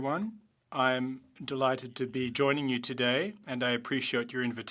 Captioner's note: speaking French